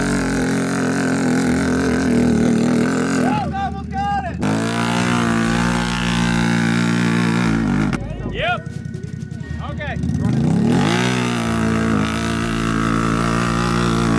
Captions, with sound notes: - Go! You got it! - Yep! Okay. (engine revving)